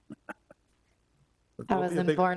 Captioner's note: laughing